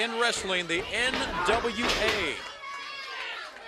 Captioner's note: crowd chatter